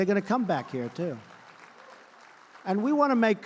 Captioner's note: applause